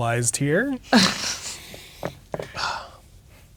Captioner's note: chuckles